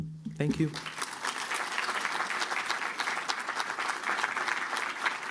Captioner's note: applause